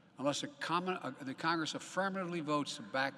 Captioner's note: none